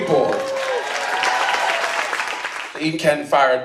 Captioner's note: cheering